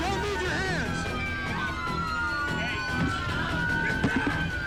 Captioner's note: sirens wailing